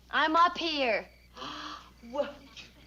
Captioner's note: Helen gasps